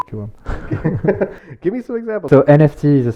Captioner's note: laughs